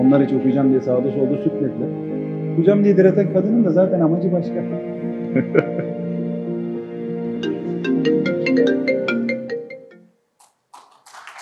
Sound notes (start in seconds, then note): 7.4 phone ringtone